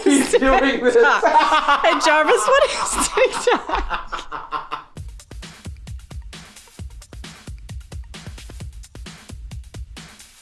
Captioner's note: laughing